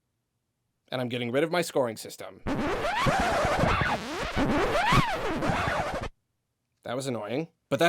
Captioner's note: annoyingly long record scratch sound